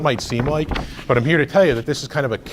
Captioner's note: rustles papers